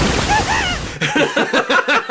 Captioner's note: shrieks